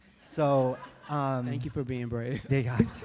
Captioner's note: laughter